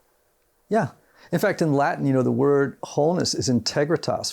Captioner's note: speaking in Latin